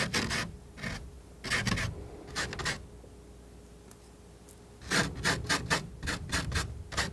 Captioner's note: scratching